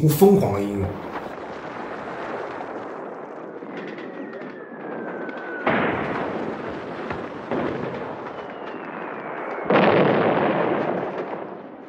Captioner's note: sounds of artillery fire